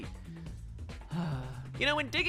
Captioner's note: sigh